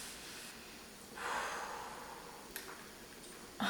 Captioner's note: exhales to alleviate pain